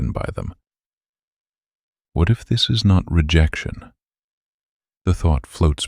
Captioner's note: pause